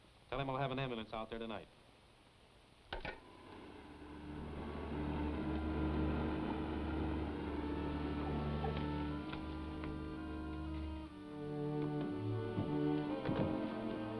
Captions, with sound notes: Tell him I'll have an ambulance out there tonight. (receiver clicks) (engine purrs)